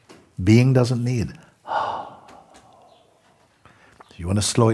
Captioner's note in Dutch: lange uitademing